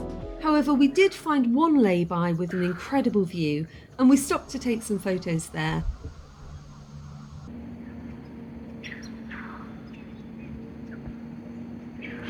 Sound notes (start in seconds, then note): 9.2 loud birdsong